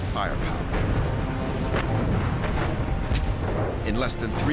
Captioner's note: gunfire